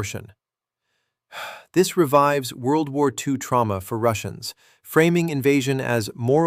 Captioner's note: sighs